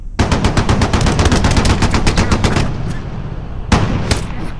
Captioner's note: gun fires rapidly